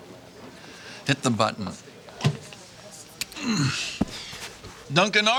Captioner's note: groaning